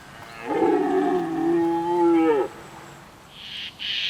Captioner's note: stag roars